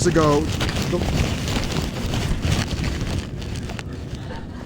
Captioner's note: pa system crackling